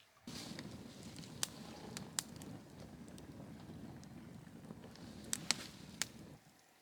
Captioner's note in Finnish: tuli räiskyy nuotiossa